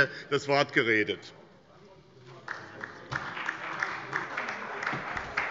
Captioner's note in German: Beifall bei der SPD und der LINKEN